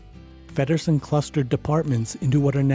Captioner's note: voiceover